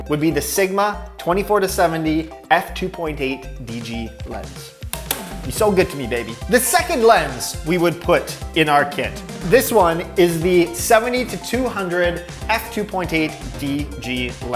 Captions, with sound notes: would be the Sigma 24-70 f/2.8 DG lens. (hand smacks) You so good to me, baby. The second lens we would put in our kit, this one is the 70-200 f/2.8 DG lens.